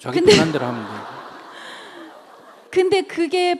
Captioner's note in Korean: 청중웃음